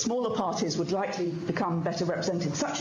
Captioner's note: speaking in french